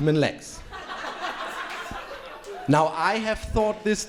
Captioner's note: crowd laughing